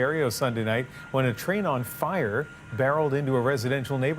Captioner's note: sirens